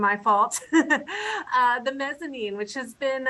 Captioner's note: laughing